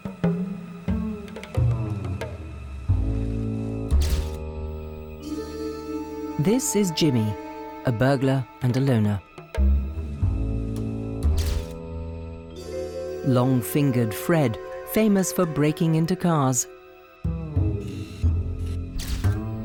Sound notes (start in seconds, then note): 0.3 dramatic music; 4.0 camera shutter clicking